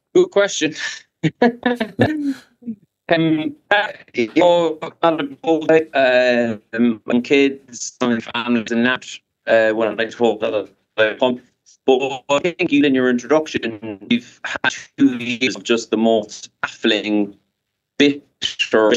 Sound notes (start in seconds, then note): 1.2 laughs